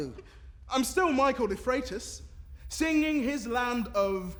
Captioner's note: a faint rumbling begins